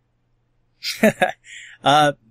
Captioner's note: laughs